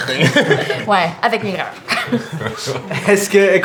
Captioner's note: laughter; Chúk laughs; mutters